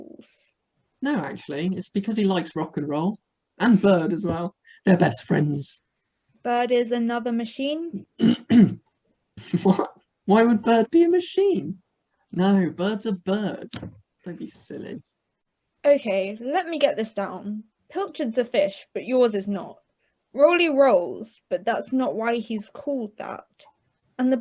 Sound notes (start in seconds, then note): 8.2 clears throat